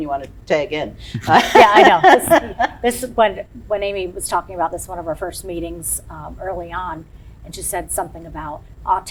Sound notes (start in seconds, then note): 1.2 laughs